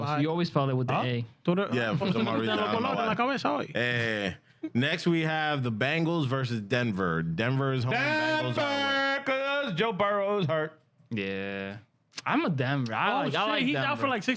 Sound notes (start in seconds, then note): 1.8 speaking In Foreign Language